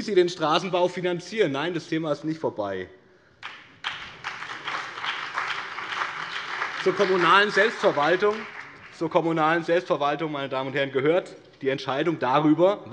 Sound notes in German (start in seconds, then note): 3.4 Beifall BÜNDNIS 90/DIE GRÜNEN und CDU